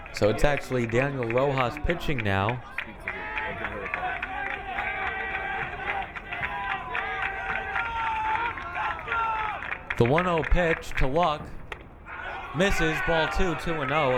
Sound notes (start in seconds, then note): 3.3 crowd cheering